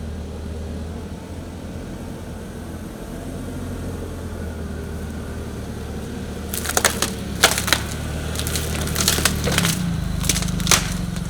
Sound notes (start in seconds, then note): 0.3 fork truck motor humming; 6.4 protection mats crunching